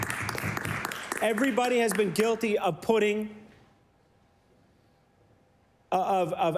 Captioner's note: applause